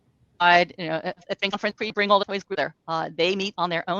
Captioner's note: speaks faintly